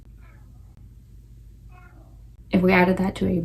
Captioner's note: cat whining continues